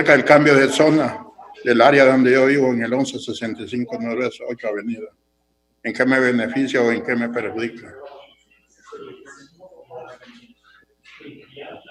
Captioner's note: speaking foreign language